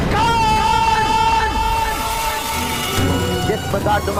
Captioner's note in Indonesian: berteriak